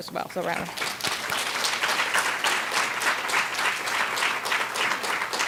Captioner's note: applause